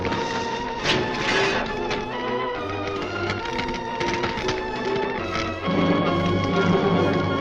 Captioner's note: dramatic orchestral music; fire whooshing